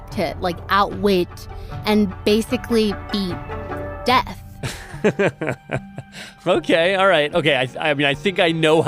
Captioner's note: laughs